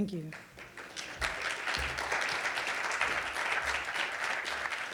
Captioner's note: audience applauding